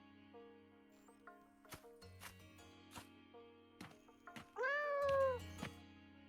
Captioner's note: rooster crowing